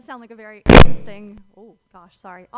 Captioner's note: static crackles